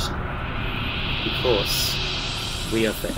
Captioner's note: whooshing crescendo